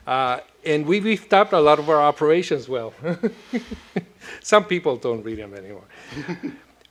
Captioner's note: laughs